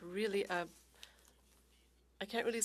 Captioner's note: speaking French